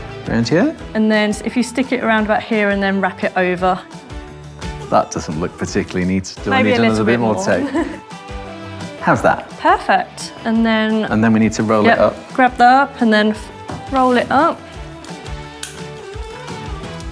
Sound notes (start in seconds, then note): 6.6 chuckles; 14.4 upbeat music continues